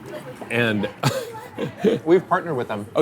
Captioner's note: laughs